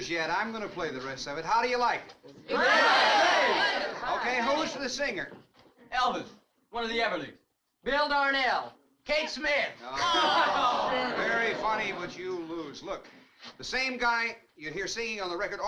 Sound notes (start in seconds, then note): 2.5 crowd cheering